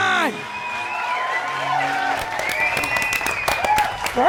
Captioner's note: applause